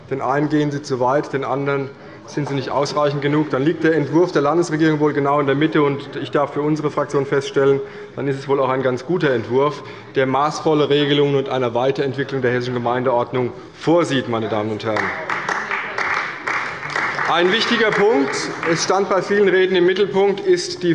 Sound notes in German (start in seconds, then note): 14.9 Beifall bei der CDU